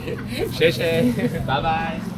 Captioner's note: laughter